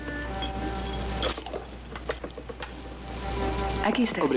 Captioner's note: bottle Top Pops